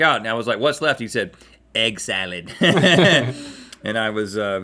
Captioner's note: chuckles